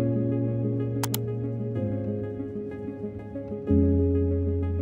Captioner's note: button clicks